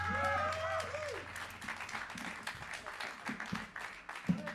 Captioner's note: cheers and applause